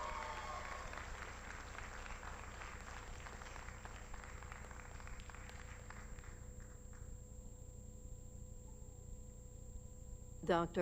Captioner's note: applause